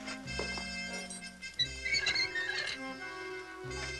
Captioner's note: armor squeaking